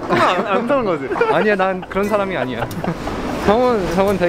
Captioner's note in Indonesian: tertawa